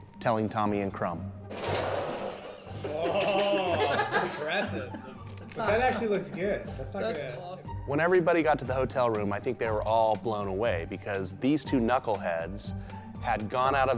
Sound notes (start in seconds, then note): 3.1 laughter